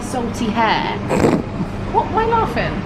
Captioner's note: snorts